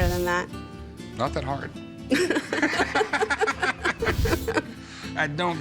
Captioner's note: all laughing